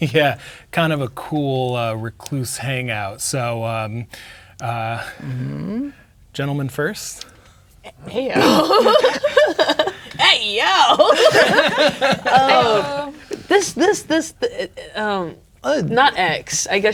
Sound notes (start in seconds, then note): 9.0 laughing; 11.4 all laughing; 14.7 stammering